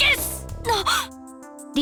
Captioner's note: gasp